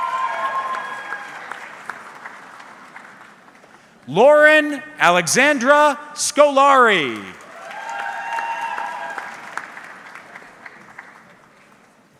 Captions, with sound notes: (audience cheering) Lauren Alexandra Skolari. (audience cheering)